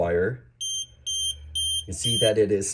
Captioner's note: beeping